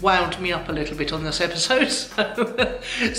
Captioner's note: laughing